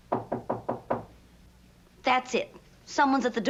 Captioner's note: knock on door